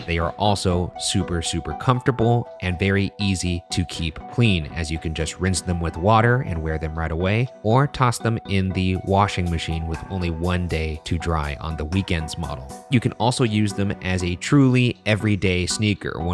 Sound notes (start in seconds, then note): none